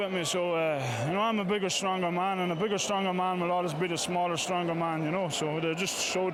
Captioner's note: applause